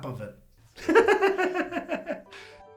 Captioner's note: laughs